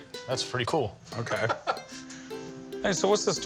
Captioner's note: laughs